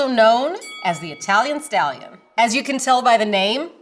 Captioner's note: bell dings